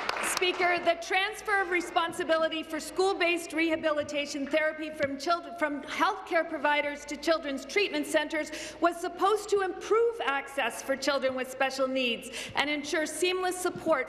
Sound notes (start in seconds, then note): 0.0 some Applause